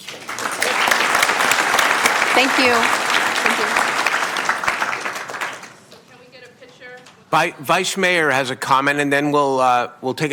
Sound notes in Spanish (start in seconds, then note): 4.8 Aplausos